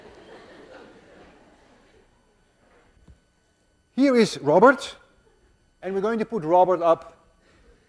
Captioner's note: class laughs